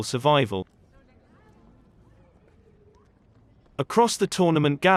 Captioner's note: people chattering